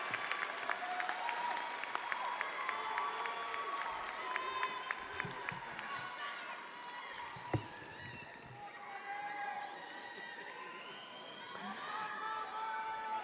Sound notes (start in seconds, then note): 0.0 audience applauding; 0.0 audience cheering